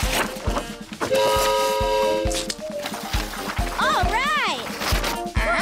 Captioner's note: train horn blares